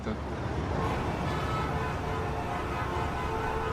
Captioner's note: city sounds